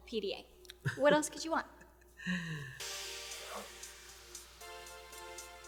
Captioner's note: Homeless Hugh chuckles; upbeat synth music